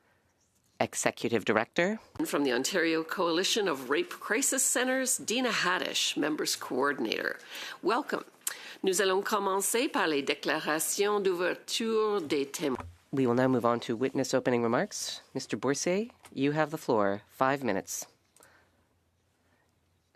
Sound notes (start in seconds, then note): 13.1 speaking French